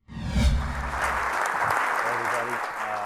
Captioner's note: audience claps